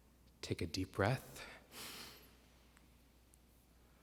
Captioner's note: inhales